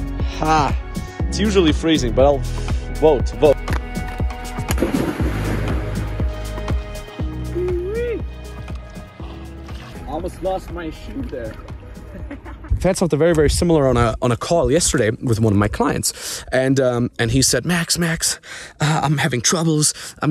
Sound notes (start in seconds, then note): 4.5 water splashes; 7.5 shouts; 11.9 chuckles